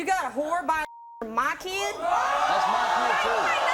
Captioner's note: beep; audience gasping